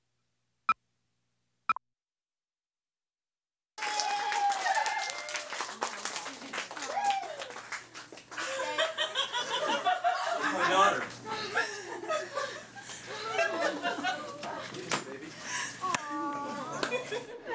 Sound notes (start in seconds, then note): 3.7 cheers and applause; 8.4 woman laughing